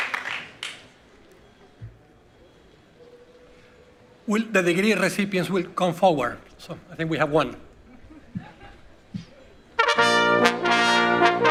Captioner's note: applause